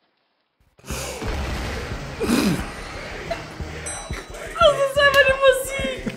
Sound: high pitched laugh

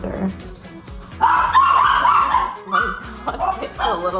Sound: dog barks

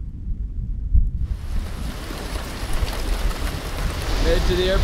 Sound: rain drops

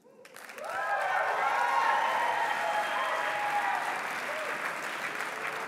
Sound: applause

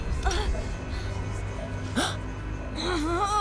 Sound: gasping; grunting

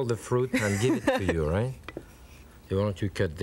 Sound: laughing

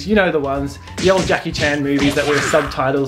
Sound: karate noises

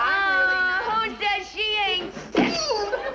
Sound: Mrs. Stevens groans

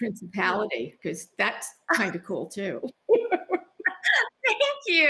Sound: both laughing

